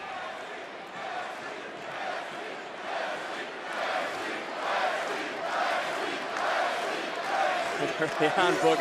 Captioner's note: crowd chants "wes lee"